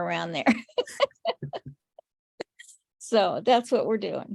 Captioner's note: laughs